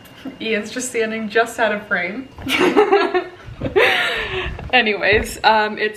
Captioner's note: laughing